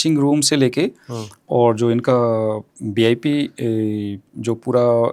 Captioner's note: nasal voice